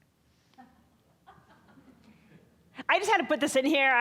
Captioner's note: scattered laughing